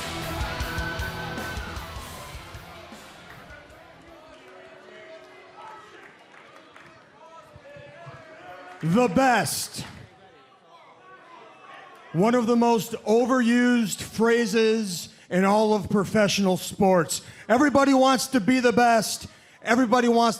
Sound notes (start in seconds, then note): 0.0 crowd chatter